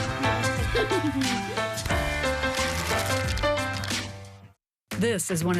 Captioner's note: laugh